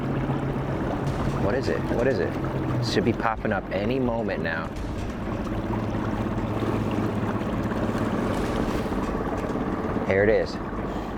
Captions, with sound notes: What is it? What is it? It should be popping up any moment now. (boat engine running and water splashing) Here it is.